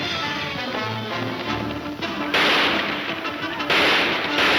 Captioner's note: gunshots banging